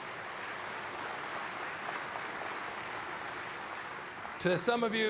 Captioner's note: applause